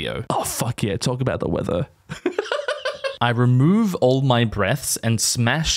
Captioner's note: schoolgirl giggle